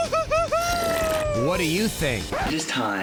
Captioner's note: record scratches